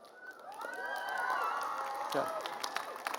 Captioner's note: applause